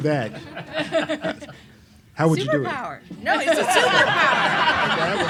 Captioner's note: laughs